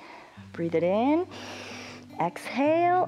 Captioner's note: inhales